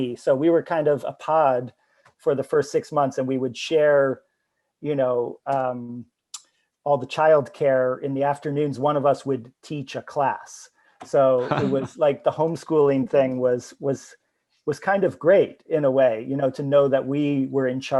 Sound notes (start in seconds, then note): 11.2 chuckles